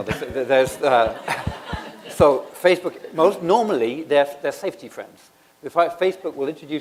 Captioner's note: laughter